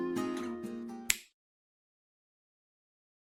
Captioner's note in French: Claquement de doigts